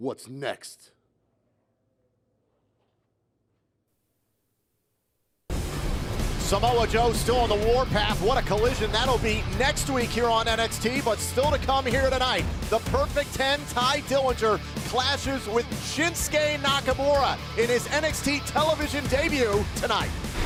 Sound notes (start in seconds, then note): none